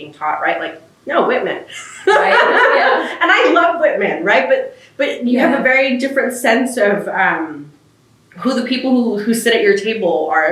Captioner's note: laughs